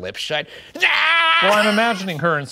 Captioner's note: screaming